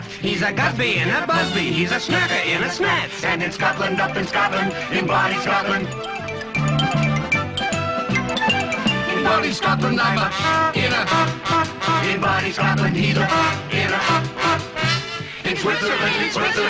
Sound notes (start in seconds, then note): 9.9 toot-toot-toot; 11.0 toot; 13.2 toot-toot-toot